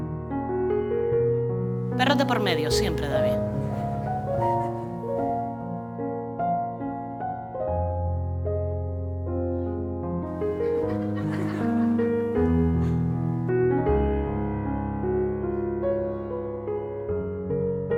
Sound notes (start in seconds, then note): 10.4 laughter